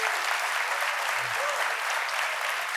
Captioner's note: applause